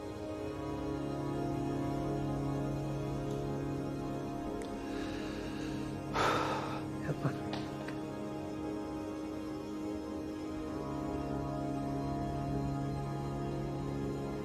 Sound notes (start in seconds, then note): 6.1 deep exhale